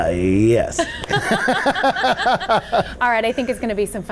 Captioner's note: both laugh